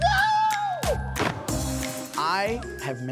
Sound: screams

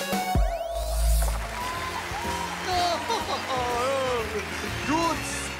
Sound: recorded cheering and applause

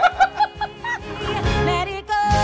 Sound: bell dings

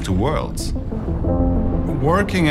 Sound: thunder rumbling; upbeat music

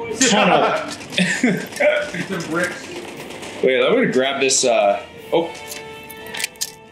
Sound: laugh

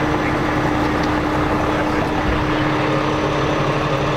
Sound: engine whines

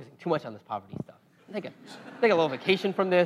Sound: laugh

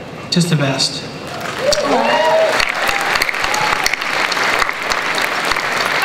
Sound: cheering, applause

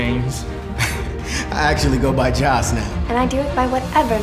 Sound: laughs

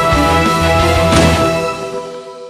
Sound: gunshot

